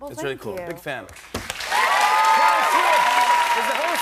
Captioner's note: cheers and applause